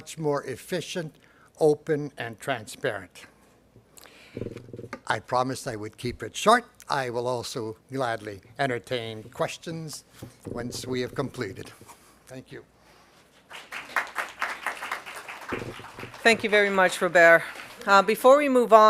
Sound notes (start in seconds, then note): 13.4 applause